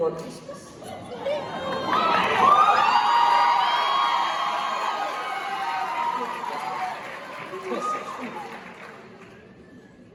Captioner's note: audience explodes again